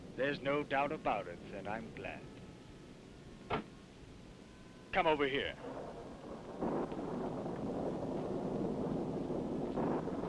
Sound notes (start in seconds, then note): 5.5 thunder rumbling